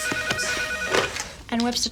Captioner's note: phone ringing